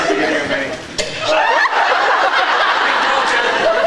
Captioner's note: mic stand thunks; laughs